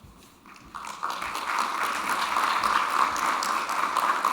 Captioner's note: audience applauding